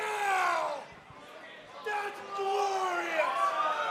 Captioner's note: crowd cheering